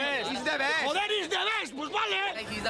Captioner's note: speaking in foreign language